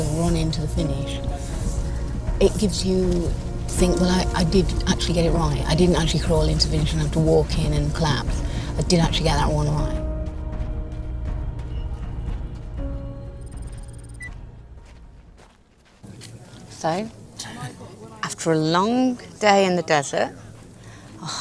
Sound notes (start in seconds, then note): 11.3 dramatic music; 12.9 beeping